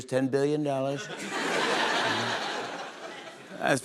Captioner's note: laughter